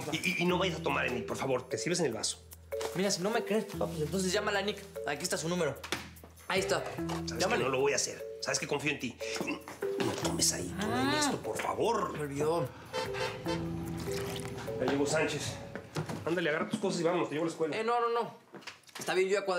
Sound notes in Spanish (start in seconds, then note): 12.8 sonido del claxon